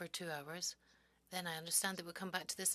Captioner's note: speaking French